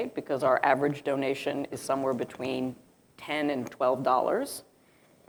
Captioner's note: none